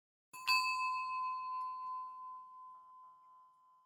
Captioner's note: bell chimes